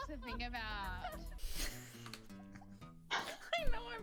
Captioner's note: laugh